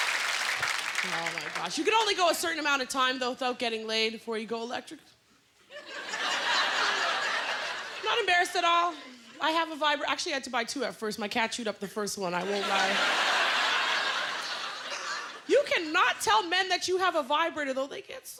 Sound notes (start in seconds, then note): 5.6 laughter; 12.4 laughter